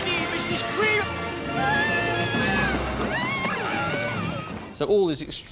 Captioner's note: she screams